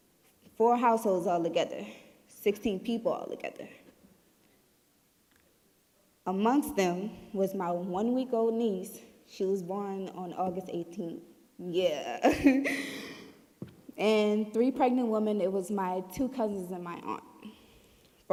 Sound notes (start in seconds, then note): 12.2 giggling